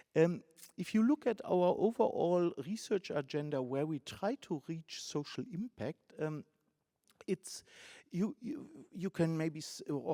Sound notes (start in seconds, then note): none